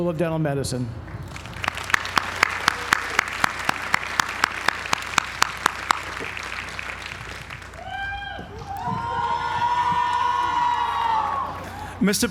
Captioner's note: applause